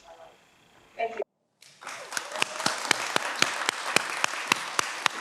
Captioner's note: everyone applauds